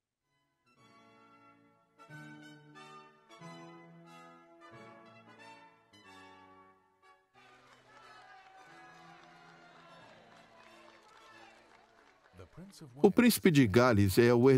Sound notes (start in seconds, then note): 0.2 dramatic music; 7.4 crowd cheering; 12.1 voiceover